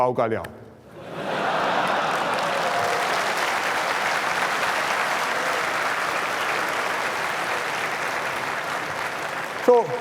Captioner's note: laughs and applause